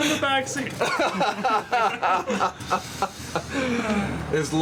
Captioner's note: all laughing